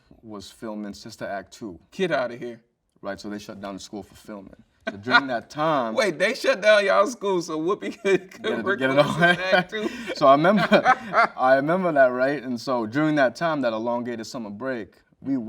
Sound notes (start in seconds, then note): 4.8 host laughing; 10.3 both laughing